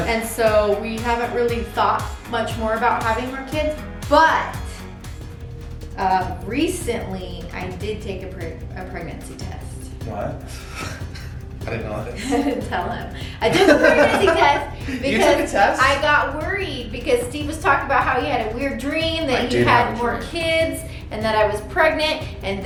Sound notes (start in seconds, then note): 4.7 intense music; 13.5 laughs